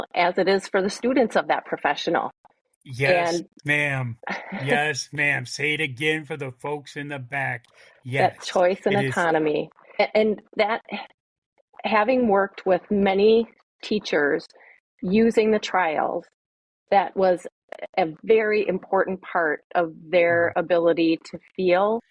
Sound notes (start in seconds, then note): 4.3 laughing